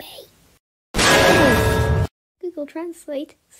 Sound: bang

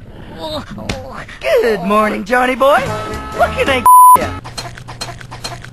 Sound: beep

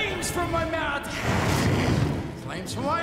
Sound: flames whooshing

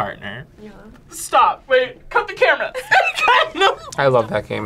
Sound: laughs

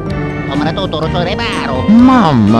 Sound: italian gibberish

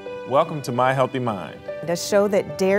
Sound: voiceover

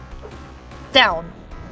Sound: punch sound; thunder strikes; punch sound; thunder strikes

